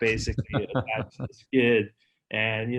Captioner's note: laughing